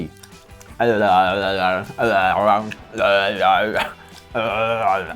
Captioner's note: exaggerated chewing